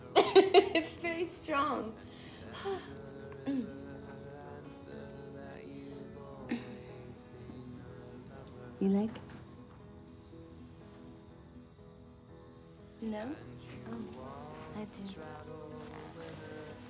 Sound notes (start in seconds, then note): 0.0 laughs; 2.1 sighs; 3.4 clears throat